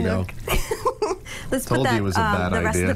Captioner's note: laughter